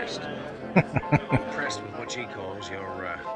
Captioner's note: chuckling